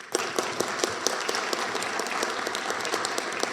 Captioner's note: applause